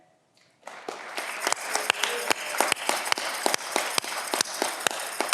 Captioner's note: audience clapping